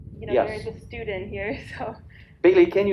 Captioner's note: laughs